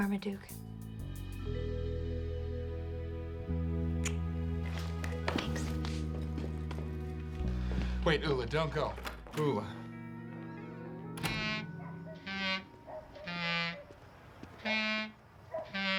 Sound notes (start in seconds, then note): 11.1 door shuts